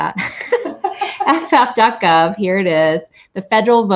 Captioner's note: laughter